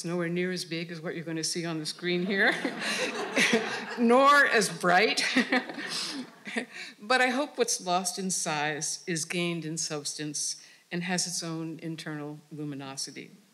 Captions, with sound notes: is nowhere near as big as what you're going to see on the screen here. (audience cheering) Nor as bright (laughing). But I hope what's lost in size is gained in substance and has its own internal luminosity.